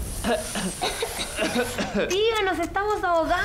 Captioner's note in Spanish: Los sobrinos tosiendo